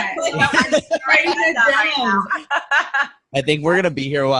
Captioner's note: laughing